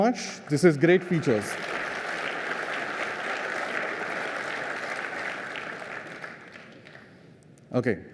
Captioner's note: applause